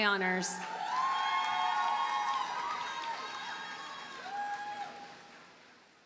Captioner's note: audience cheers and applauds